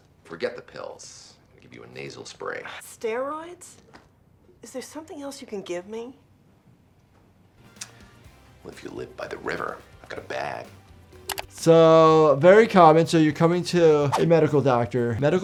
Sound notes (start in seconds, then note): 8.0 smacks